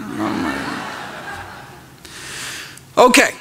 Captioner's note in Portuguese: risos